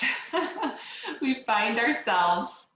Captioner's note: laughs